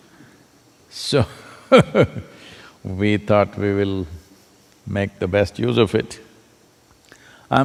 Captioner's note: laughs